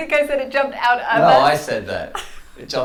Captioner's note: laughs